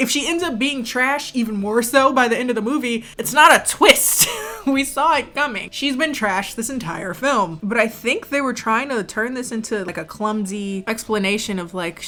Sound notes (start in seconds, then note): 4.1 laughs